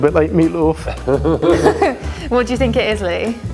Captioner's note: laughter